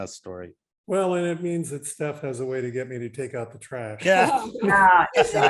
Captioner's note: all laughing